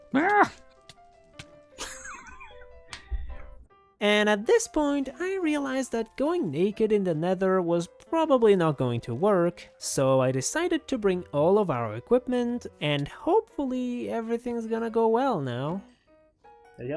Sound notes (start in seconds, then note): 1.8 laughs